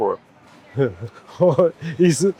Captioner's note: laughs